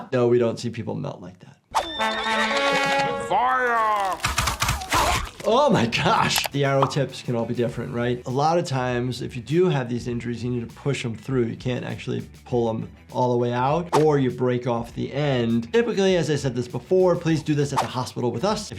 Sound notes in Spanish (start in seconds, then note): 1.8 caballos relinchando; 4.1 flechas silbando